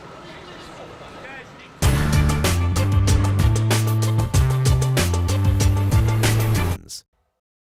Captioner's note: indistinct chatter